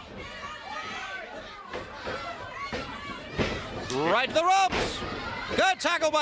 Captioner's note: crowd chatter